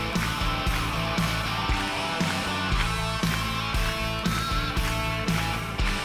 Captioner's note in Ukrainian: оплески